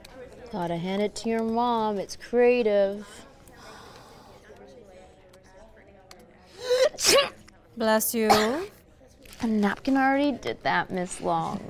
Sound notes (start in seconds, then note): 6.8 sneezes